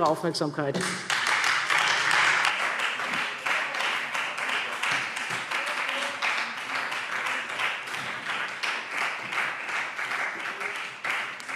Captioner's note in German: Beifall Freie Demokraten